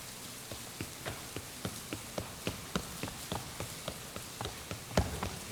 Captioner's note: tapping